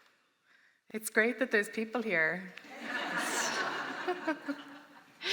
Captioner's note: laughter